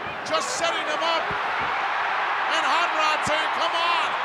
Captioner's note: crowd cheering